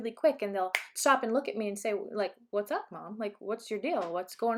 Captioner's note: clap